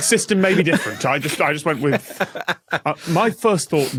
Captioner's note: continues laughing